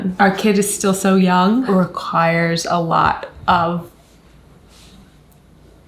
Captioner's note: none